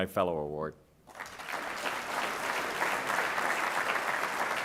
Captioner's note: audience claps